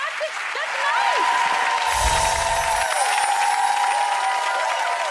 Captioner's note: applause